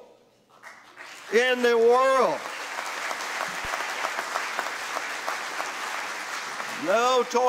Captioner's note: applause